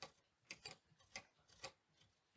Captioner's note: tightening